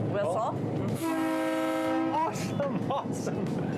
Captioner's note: train whistle blowing